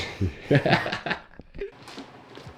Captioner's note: laughing